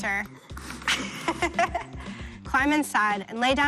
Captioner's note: Persephone laughs